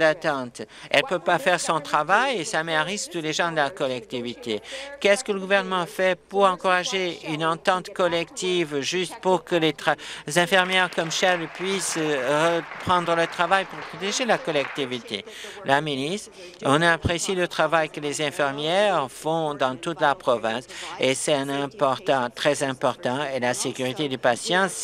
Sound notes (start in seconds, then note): 13.8 applause